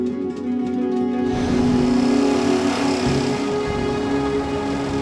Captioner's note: engine whirring